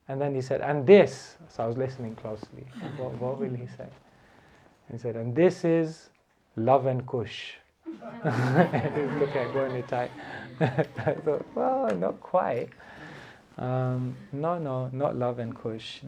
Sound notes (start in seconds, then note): 7.8 laughter